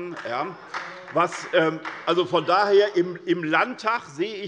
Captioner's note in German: Beifall bei Abgeordneten der SPD